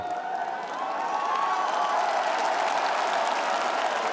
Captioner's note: audience cheers